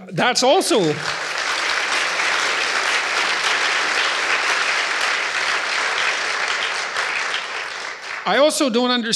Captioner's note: applause